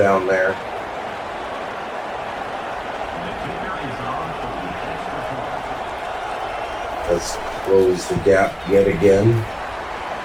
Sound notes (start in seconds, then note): 0.0 crowd Noises